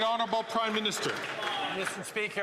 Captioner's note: some Applause